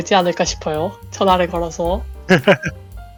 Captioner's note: laugh